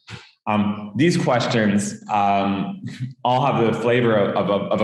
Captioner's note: chuckles